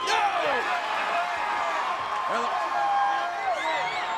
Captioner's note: crowd cheers